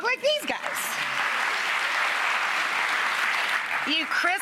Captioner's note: clapping